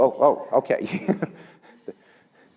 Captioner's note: laugh